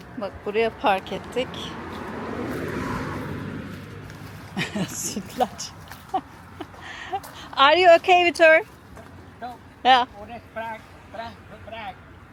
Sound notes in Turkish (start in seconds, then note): 4.5 kahkaha